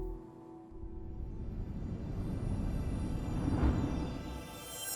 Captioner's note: whoosh sound effect